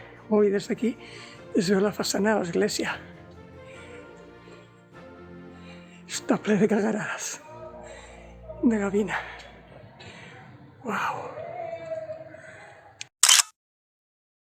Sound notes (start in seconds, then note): 6.2 it's full of seagull cackling